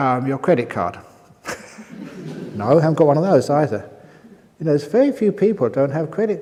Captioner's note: laughter